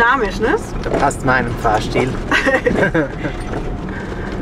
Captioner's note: laughs